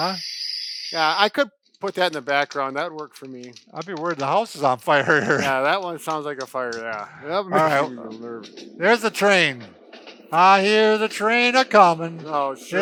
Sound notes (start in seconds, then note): 4.1 fire crackling; 8.6 train chugging